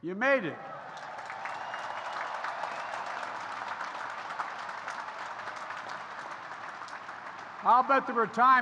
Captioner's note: applause